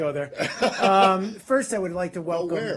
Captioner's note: laughter